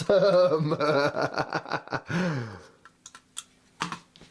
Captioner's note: laughs